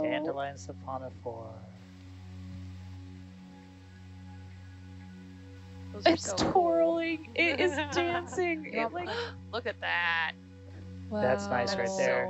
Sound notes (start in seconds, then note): 3.2 soothing music; 7.3 woman laughing; 11.2 woman wowing